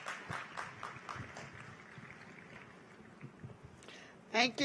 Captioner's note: applause